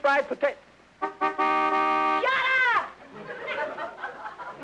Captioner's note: car honks